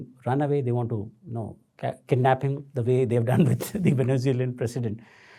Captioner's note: chuckles